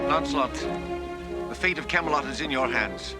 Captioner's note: makes clicking noise